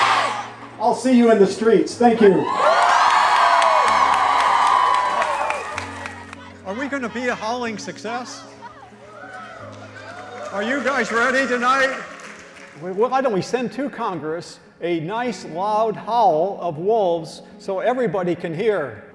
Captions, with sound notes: I'll see you in the streets. Thank you. [CROWD CHEERS] Are we going to be a howling success? Are you guys ready tonight? Why don't we send to Congress a nice, loud howl of wolves so everybody can hear?